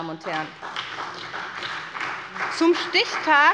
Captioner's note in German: Beifall bei der SPD